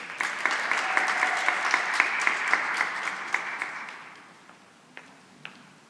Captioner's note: cheering and applause